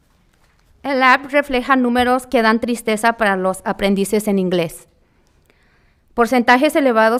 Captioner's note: speaking in foreign language